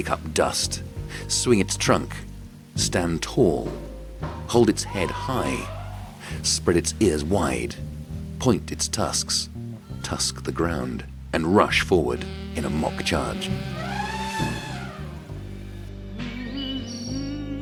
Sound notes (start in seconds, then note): 12.6 elephant roaring; 15.4 soft music; 17.4 birds chirping